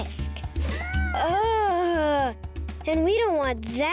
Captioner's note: groans